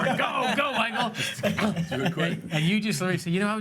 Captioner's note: laughs